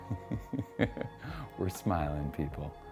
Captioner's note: giggles